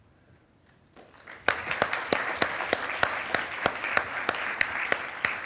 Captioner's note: attendees applauding